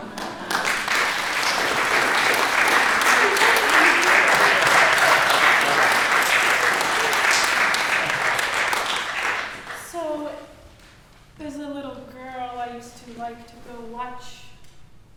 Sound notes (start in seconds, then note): 0.1 applause; 0.1 audience laughing; 1.8 applause